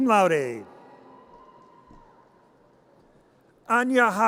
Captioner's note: audience cheers